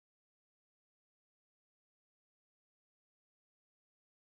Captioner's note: none